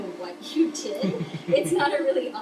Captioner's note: laughs